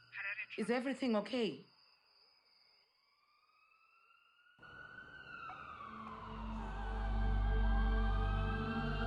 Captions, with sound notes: -Harare Traffic. -Is everything okay?! [ambulance siren]